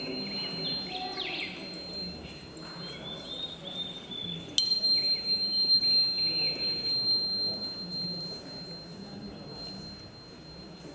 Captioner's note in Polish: dźwięk kamertonu